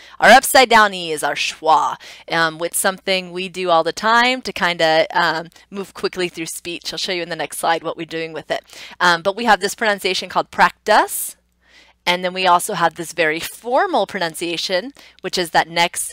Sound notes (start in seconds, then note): none